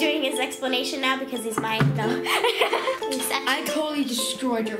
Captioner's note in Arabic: يضحك